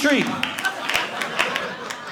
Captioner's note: audience laughing